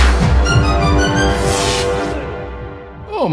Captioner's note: electric zap